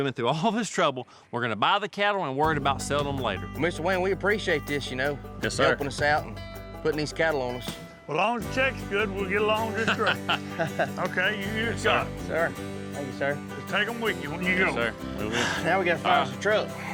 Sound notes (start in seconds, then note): 9.8 all chuckling